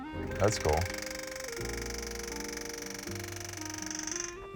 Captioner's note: machine grinding